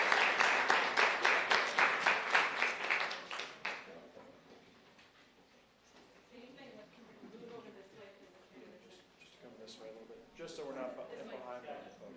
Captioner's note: applause